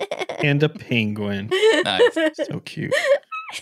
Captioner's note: laughing